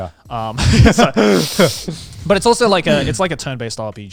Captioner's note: sniffing